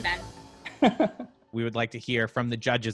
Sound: laughs

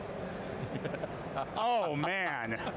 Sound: chuckling

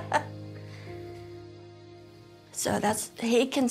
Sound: laughs

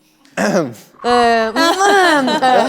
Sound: ah-hem; clearing throat

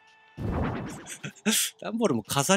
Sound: giggle

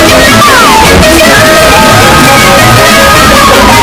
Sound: yelling

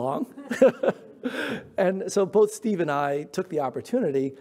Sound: chuckles

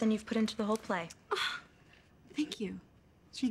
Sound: sighs

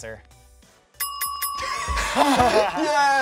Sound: bell dings; laughs

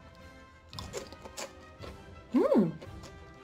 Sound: Crunch

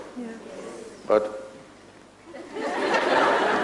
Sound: laughter; laughs

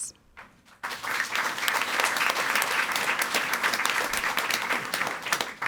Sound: audience applauding

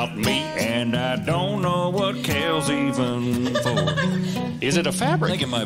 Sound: giggling

